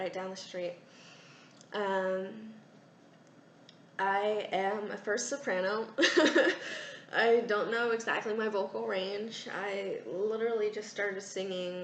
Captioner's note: laugh